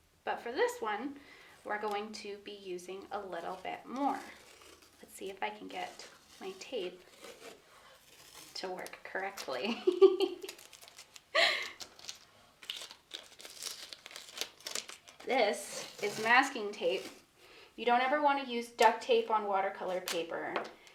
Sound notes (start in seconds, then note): 9.7 chuckles; 9.8 masking tape rustling